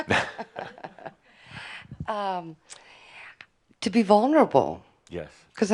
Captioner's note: chuckling